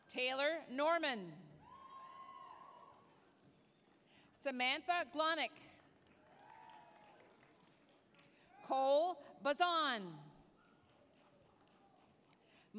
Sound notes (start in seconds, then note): 1.6 applause, cheering; 5.8 applause, cheering; 10.9 applause